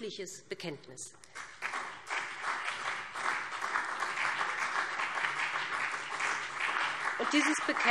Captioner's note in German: Beifall BÜNDNIS 90/DIE GRÜNEN und CDU